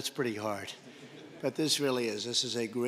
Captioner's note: laughter